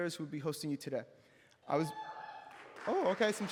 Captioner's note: applause